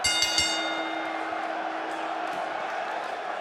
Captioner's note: bell rings